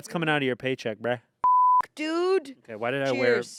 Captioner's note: beep